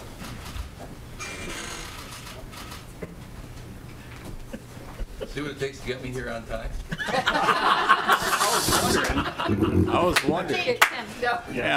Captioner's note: laughter